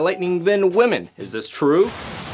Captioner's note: zap